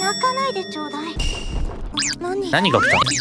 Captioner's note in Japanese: 物音